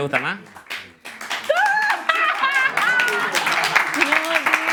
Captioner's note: applause